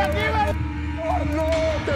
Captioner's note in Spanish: Disparos